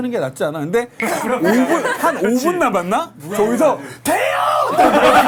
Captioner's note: A short cry burst out when five minutes remained